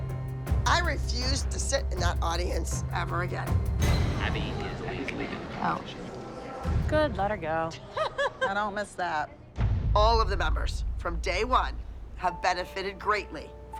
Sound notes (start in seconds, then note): 7.7 laughter